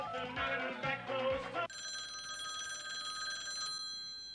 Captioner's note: phone ringing